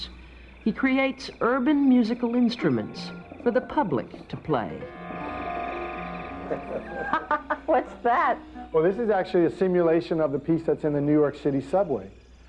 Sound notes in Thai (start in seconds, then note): 5.2 หัวเราะ